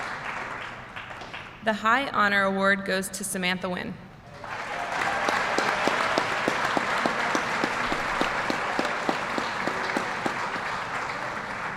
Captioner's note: applause